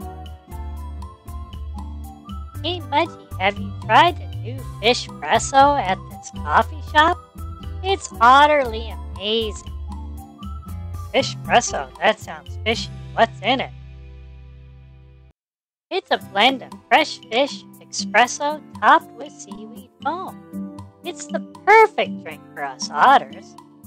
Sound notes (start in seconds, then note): 10.2 excited